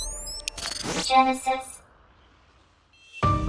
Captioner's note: robotic voice